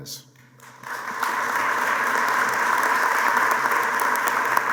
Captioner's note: applause